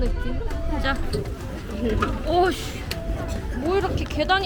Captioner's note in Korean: 북적북적